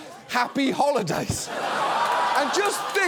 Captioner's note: audience laughs